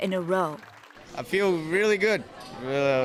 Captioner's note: applause